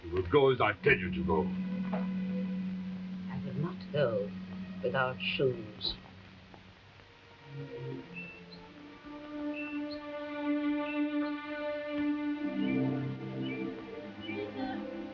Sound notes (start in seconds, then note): 6.4 soft uneasy music; 9.4 bird tweeting; 10.7 dramatic forlorn music